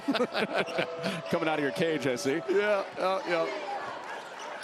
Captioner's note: laughter